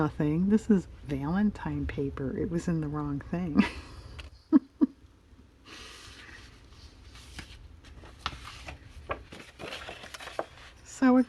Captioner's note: laughs